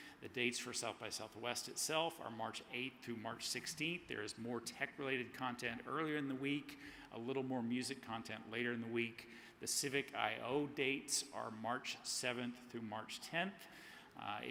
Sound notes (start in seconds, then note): none